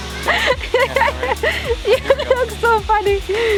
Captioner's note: laughter